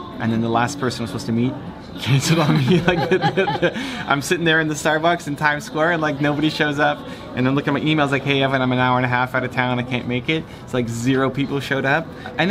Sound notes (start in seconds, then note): 2.0 laughter